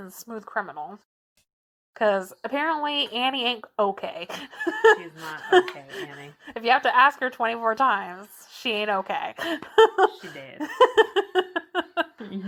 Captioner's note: laughs